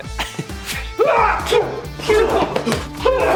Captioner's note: yelling